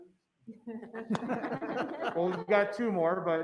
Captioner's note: laughs